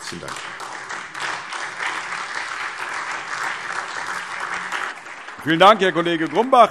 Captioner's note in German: Beifall SPD, Freie Demokraten und DIE LINKE